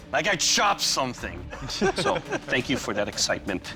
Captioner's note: laughter